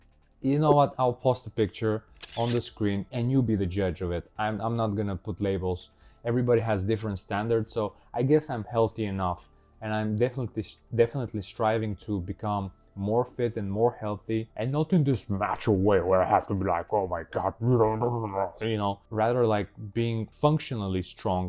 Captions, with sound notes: You know what? I'll post a picture on the screen and you be the judge of it. I'm not gonna put labels. Everybody has different standards, so... I guess I'm healthy enough. And I'm definitely... Definitely striving to become more fit and more healthy. And not in this macho way where I have to be like- *caveman sounds* *caveman sounds* *caveman sounds* *caveman sounds* *caveman sounds* *caveman sounds* *caveman sounds* *caveman sounds* *caveman sounds* Ya know? Rather like - being functionally strong...